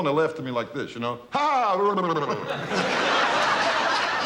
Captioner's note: laughing; audience laughing